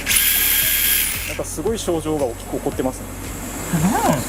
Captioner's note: laughs